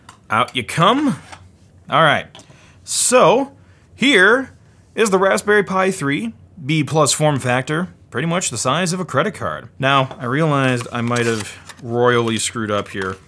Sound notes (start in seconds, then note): none